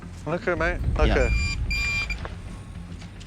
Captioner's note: detector beeps twice